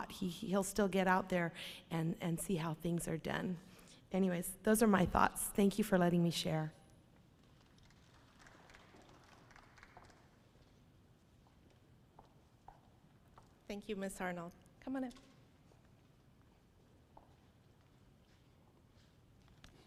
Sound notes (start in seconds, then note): 7.7 audience applauds